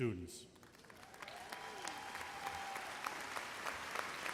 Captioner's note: audience applauds